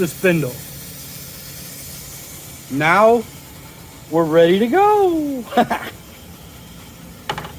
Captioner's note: giggle